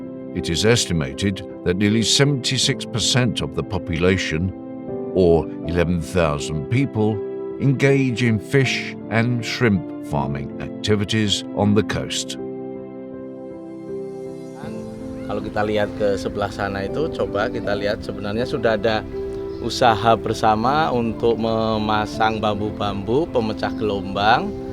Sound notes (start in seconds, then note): 15.8 speaking Indonesian